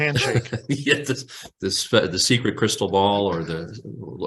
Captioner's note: laughs